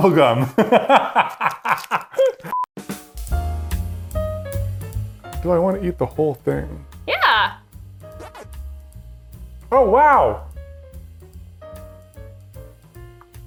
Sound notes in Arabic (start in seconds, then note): 0.7 يضحك; 3.1 موسيقى لحنية; 8.3 أصوات أصوات لعبة فيديو; 10.6 موسيقى لحنية